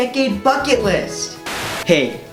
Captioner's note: old TV Static again